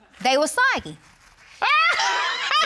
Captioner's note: judge laughs